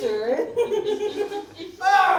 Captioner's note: The Masters laugh